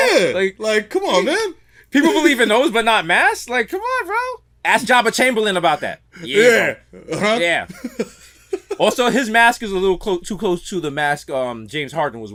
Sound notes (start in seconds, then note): 6.9 laughs